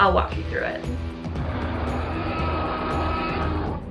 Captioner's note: dinosaur roaring